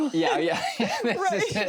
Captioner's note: both laugh